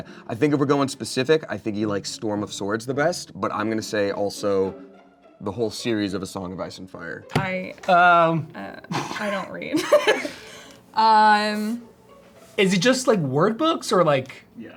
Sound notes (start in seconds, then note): 9.7 laughs